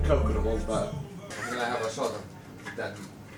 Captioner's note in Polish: people talking at a pub